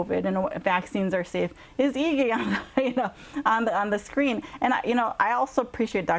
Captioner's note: laughs